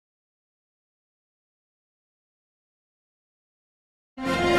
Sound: silence; orchestral music plays

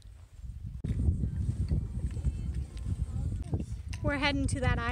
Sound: foot steps and ♪ ♪ quietly

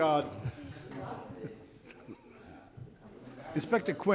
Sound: chuckles

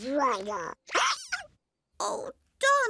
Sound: hiccups

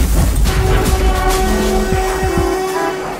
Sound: huge metal and glass crash; steam hissing / cars honking

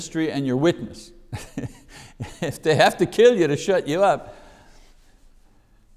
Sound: laughs

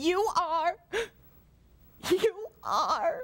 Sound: sobs

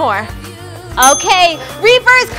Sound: timer dings

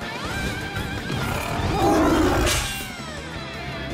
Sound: roaring

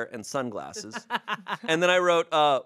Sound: laughs

